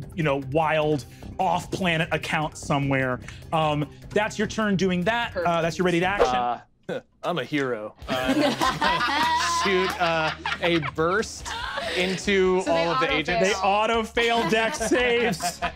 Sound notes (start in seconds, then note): 6.2 swooshing sound; 8.1 laughter